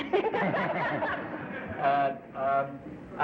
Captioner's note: laughter